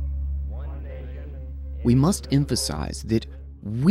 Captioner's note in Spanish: habla débilmente